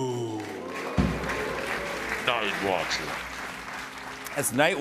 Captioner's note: applause